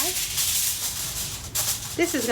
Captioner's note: foil crackling